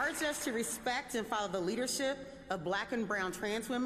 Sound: applause

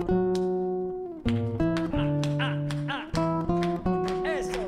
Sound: snapping and clapping

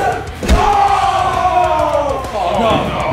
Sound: crowd exclaiming; loud smack

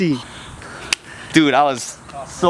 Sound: smack

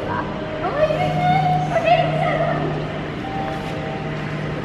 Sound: excited chattering

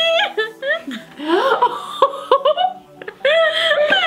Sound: laughs

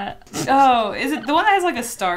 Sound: laughs

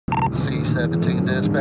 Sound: radio chirps

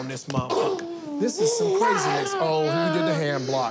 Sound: continues yelling

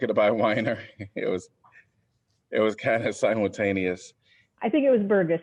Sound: laughter

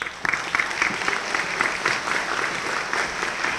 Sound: applause

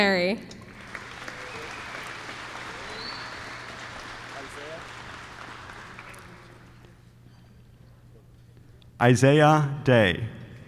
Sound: applause

